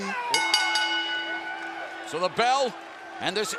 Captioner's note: bell ringing